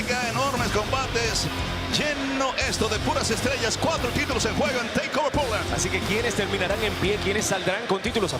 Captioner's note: speaking in spanish